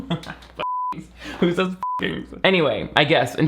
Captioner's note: laughs; beep